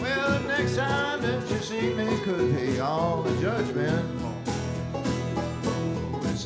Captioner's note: none